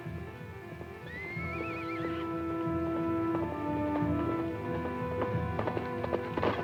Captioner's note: suspenseful music; horse neighs